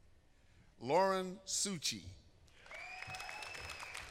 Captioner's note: applause